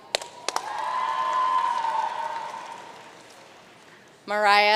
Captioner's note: audience cheering and applauding